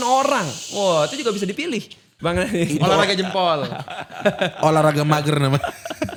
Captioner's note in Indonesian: tertawa